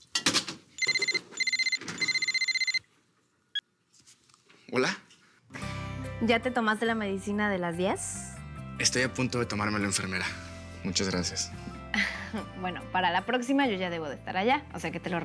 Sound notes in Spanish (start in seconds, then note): 0.8 Suena el celular